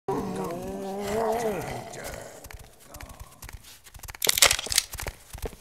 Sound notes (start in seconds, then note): 0.0 sexual Groans